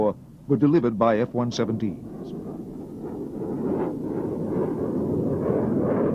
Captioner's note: jet engine roaring